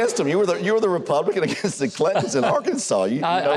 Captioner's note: Huckabee chuckles; chuckles